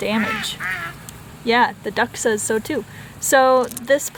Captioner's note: duck loudly quacking